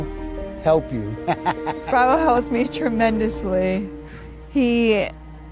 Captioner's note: laughing